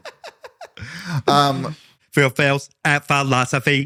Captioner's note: laughing